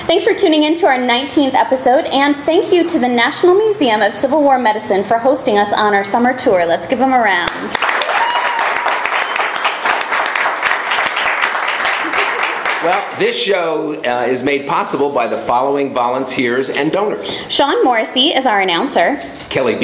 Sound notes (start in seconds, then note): 11.0 clapping and cheering